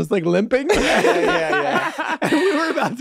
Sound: everyone laughs

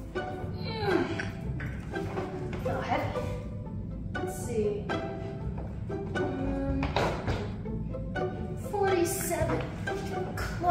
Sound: grunt

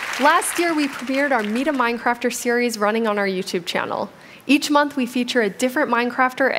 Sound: applause

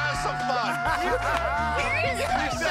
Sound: laughter

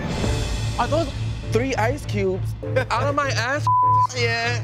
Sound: beep

